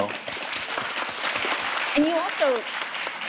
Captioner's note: all applauding